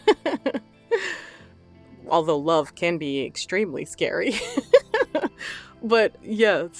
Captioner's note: laughs